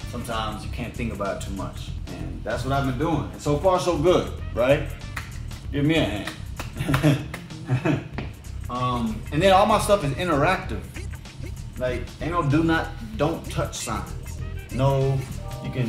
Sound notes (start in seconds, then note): 6.2 claps; 6.7 chuckles